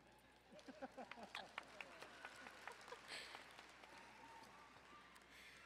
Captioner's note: audience laughing and clapping